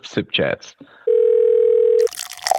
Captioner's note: phone ringing; coffee pouring